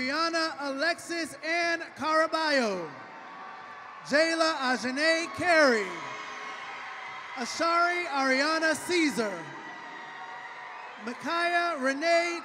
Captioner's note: cheering and applause